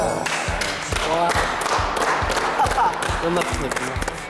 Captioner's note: applause